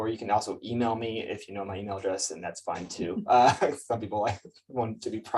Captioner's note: laughs